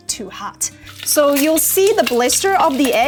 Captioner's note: eggs sizzles